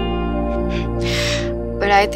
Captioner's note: Both chuckle